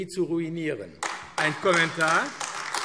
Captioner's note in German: Beifall AfD